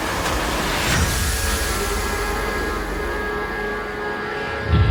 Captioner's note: suspenseful orchestral music; alarm blaring